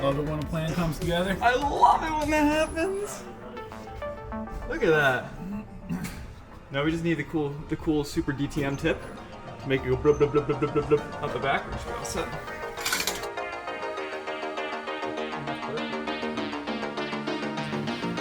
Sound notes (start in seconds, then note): 10.3 makes engine noise; 13.5 upbeat music